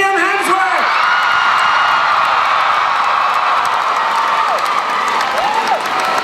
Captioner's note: crowd cheering